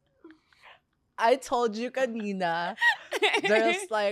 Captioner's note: laughs